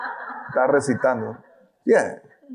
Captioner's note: audience laughing